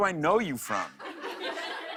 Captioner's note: laughter